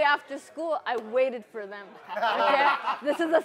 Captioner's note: laughter